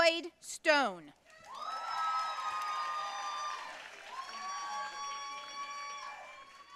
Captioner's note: audience cheering and applauding